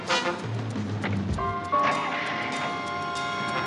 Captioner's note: engine starts; dramatic theme playing